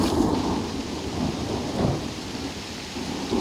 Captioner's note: thunder